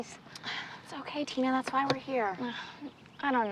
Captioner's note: sighs